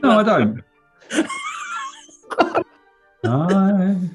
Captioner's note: laughter